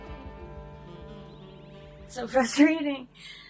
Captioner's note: sigh